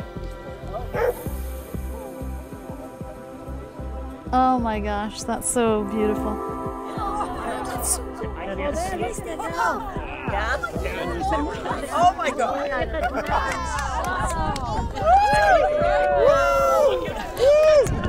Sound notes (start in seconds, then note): 0.9 calming music; 8.1 crowd murmuring excitedly; 14.1 crowd clapping and cheering